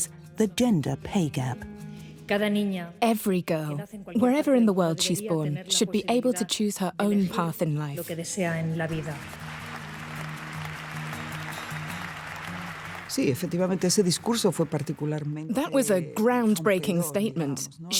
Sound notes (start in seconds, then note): 8.8 applause